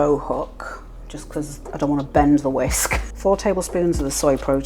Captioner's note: laugh